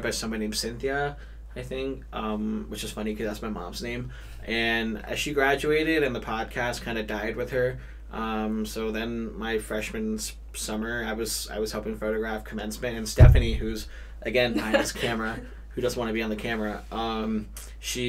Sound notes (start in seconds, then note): 14.5 laughs